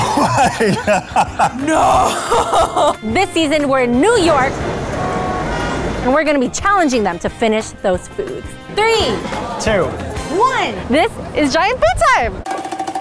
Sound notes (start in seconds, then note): 4.9 horns honking; 12.4 fast-beat drums